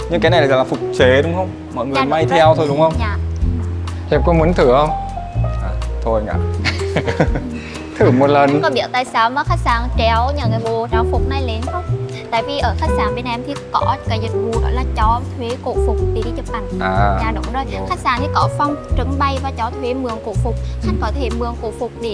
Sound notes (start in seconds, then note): 6.6 laugh